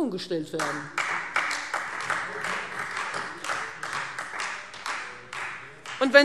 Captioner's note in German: Beifall Freie Demokraten